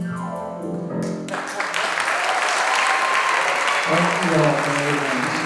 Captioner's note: audience applauding and cheering